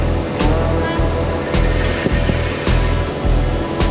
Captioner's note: finger noises